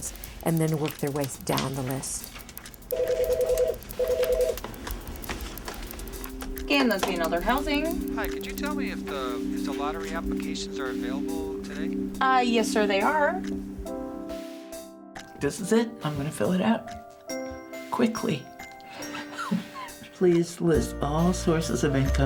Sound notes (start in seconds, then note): 2.9 phone rings; 5.9 soft music; 18.9 chuckles